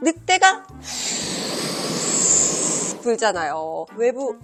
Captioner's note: blows